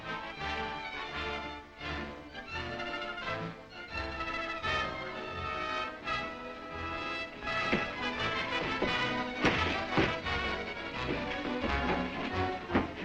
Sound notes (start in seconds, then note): 9.4 crash and guards scuffling